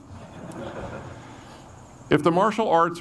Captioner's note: audience laughs